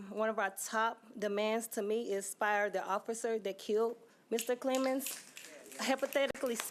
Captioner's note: applause